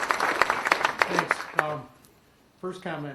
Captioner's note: applause